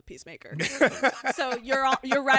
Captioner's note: laughs